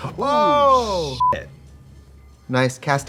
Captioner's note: beeping